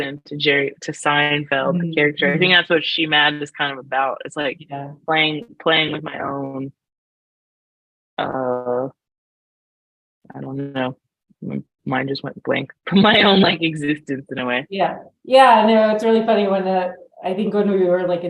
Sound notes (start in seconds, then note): 13.0 laughs